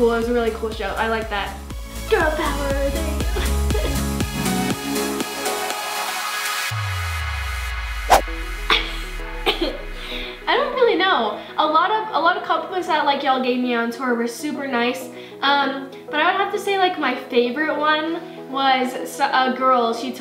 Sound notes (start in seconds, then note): 4.4 upbeat catchy music; 9.4 coughs